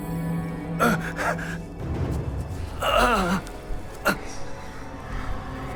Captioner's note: Jacob speaking in foreign language; Jacob grunts; eerie whispering